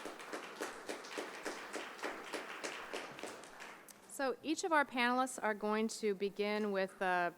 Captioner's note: applause